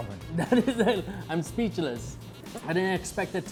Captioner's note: laughter